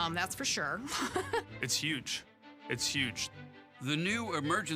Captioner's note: chuckles